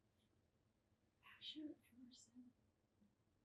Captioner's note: whispering